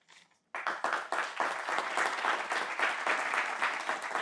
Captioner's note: audience applauds